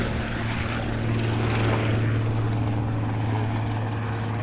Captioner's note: helicopter wings